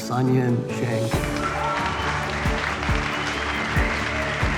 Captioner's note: applauding